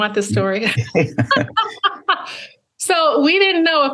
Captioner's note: laughs